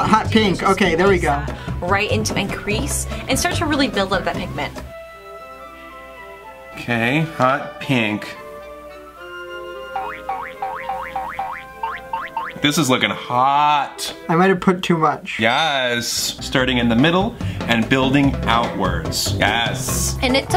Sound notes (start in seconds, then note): 4.9 flute music; 9.9 cartoon boink